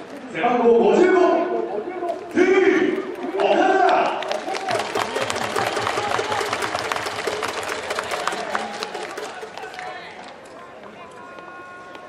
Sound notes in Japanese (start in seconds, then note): 2.8 拍手